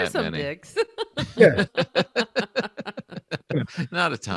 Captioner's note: laughs quickly